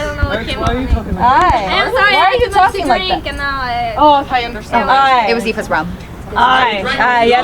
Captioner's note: people chattering